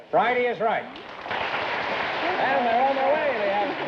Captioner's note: applause